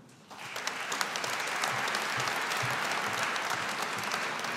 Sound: audience applauding

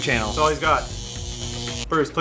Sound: electronic buzzing

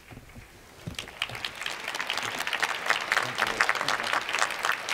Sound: applause

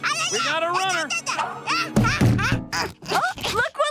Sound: banging

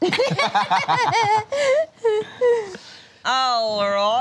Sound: laughter; laughs in a high-pitched voice

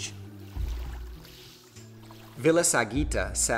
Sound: waves splashing

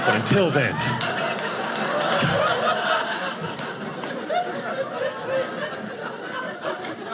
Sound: audience laughing

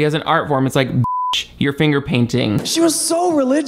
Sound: beep

